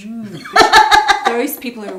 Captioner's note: laughs